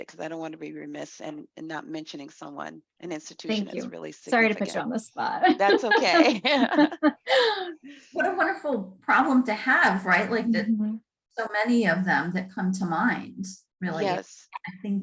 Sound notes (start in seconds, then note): 5.4 laughing